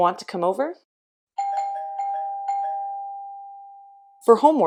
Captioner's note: doorbell ringing